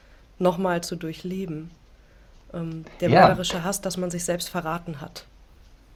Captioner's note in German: räuspern